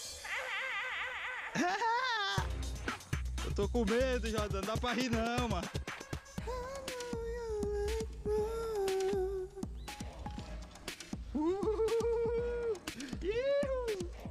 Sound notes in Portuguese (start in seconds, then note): 0.2 ambos rindo; 6.3 cantarolando; 11.2 bradando